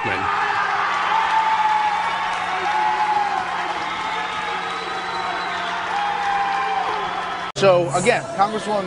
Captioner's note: cheers and applause